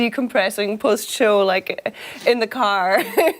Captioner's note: laughter